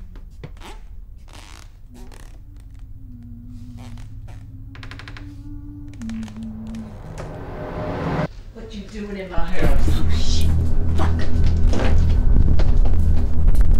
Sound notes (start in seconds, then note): 0.1 humming gets louder; 1.1 footsteps creaking; 1.8 loud humming; 4.3 door creaks; 4.3 loud humming; 6.1 sound swells